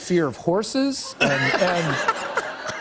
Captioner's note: laughter